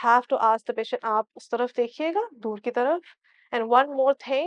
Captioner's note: in Urdu